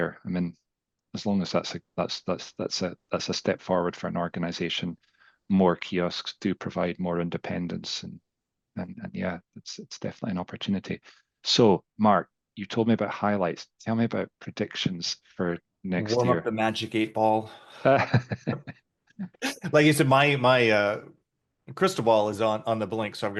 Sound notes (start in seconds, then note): 17.7 both laughing